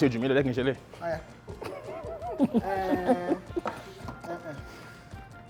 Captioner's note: laughs